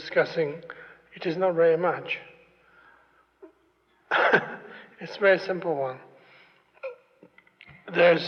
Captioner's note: laughs